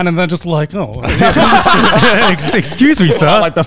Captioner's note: laughs